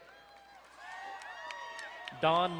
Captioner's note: crowd cheering and applauding